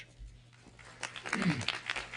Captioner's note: applause